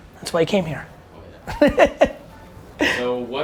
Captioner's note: Gary laughs